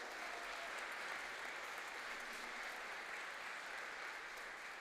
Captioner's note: applause